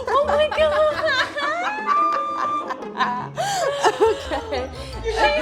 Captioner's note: laughing